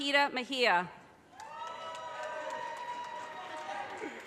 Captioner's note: audience cheers and applause